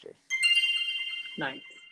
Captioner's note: bell dinging